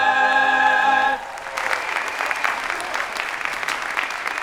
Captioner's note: audience applauding